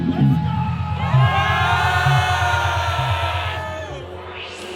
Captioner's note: crowd cheering